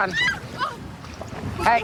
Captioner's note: screaming